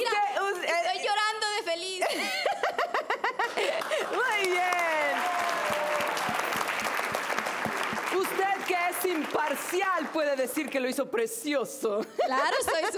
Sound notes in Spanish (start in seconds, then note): 4.6 Risas; 8.7 Aplausos